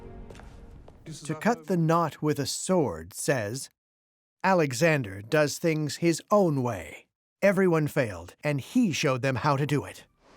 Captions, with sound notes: [in German] To cut the knot with a sword says Alexander does things his own way. Everyone failed, and he showed them how to do it.